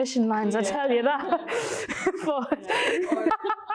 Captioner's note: laughter